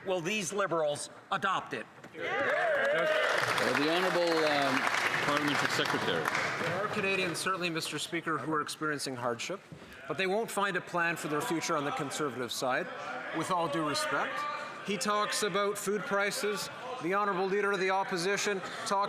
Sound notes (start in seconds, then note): 7.5 some Applause